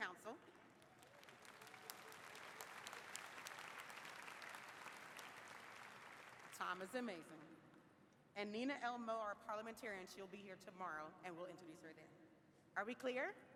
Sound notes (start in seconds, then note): 4.6 applause